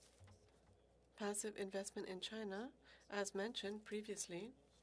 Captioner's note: speaking French